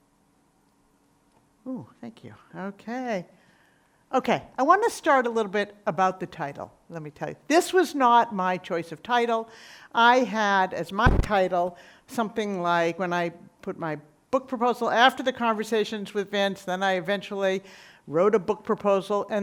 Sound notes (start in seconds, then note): none